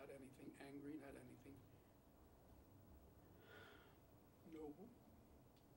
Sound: sigh

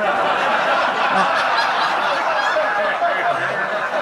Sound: audience laughing

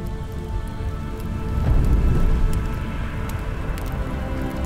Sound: fire crackles

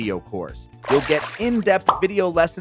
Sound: water splashing

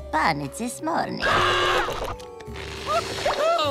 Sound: screaming

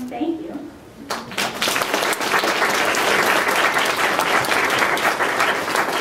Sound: applause

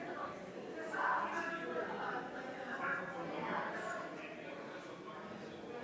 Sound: people chattering distantly continues

